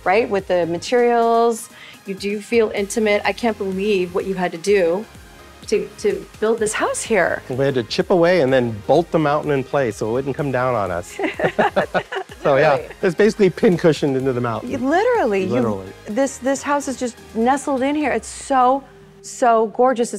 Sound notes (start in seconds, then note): 11.2 chuckling